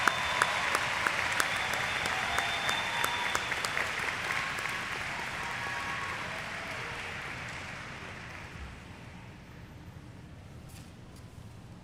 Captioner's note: cheers; applause